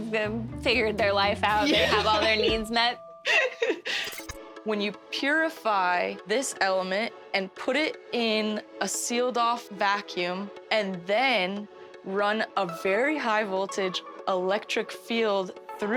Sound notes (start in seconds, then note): 3.2 laughing